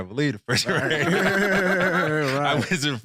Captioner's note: all laughing